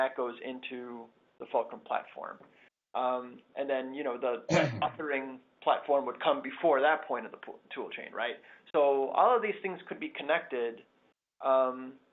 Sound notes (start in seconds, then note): 4.5 cough